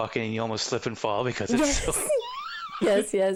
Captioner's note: laughing